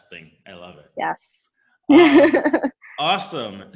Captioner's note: laughs